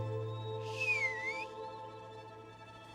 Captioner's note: whistles